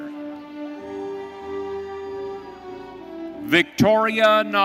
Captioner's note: audience cheering